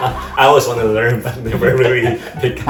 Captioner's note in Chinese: 英國腔